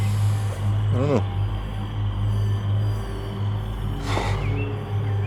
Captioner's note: exhales